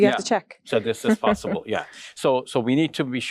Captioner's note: laughing